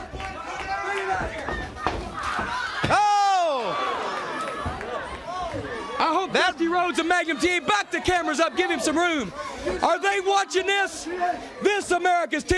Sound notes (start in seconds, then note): 0.2 crowd cheering; 10.3 crowd cheering